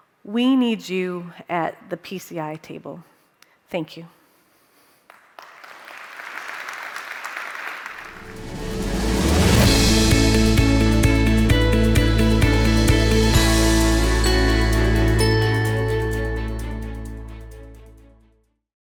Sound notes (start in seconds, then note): 5.0 crowd clapping; 8.6 upbeat music